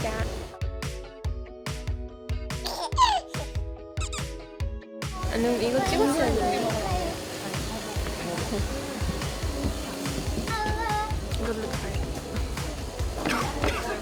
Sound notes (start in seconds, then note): 2.6 giggle